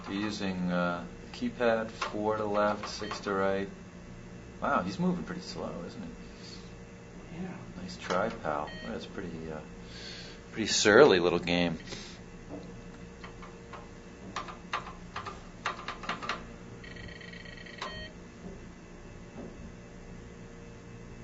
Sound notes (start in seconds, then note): 13.1 keys clacking; 16.8 computer buzzing, beep